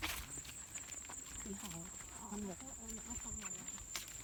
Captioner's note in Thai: เสียงจิ้งหรีด